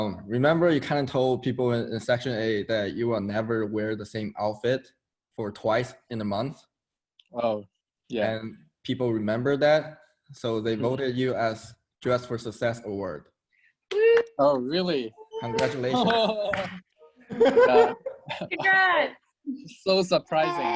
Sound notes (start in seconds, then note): 13.9 cheering; 17.3 teammates laughing